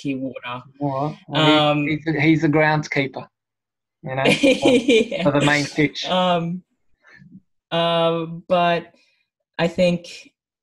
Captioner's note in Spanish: risas